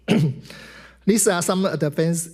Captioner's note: clears throat